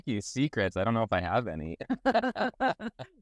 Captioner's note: laugh